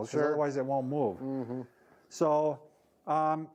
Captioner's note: hums agreeing